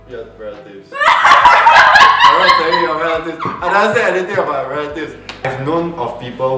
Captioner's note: panics